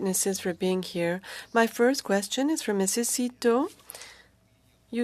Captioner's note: speaking French